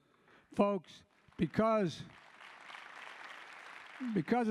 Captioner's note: applause